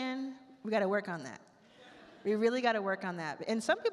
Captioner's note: attendees laugh